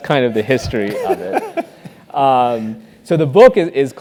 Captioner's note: laugh